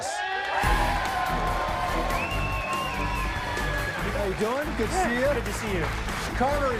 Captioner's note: cheers and applause